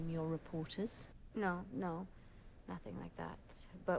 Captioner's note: none